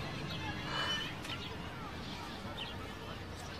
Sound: woman shudders

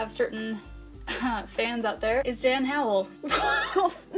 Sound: cough

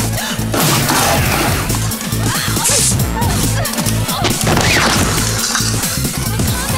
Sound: sneezes

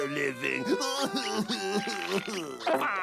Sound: crying

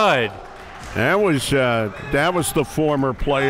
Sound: applauding

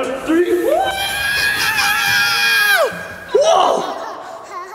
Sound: screams

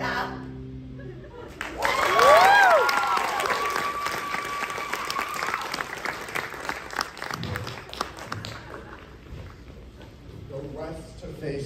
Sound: applause

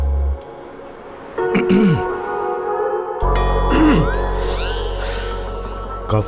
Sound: clears throat

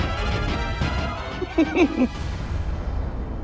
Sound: laughs

